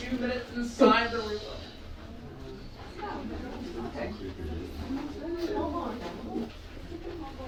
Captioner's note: group chatting and hushing each other